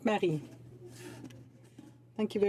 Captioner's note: speaking French